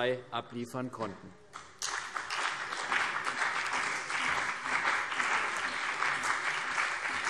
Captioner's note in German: Beifall CDU und BÜNDNIS 90/DIE GRÜNEN